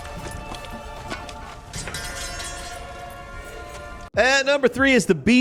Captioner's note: metal clattering